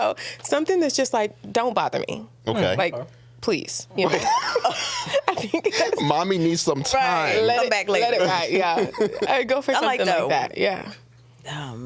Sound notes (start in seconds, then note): 4.1 laughing